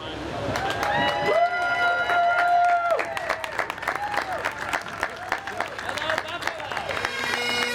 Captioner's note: cheers and applause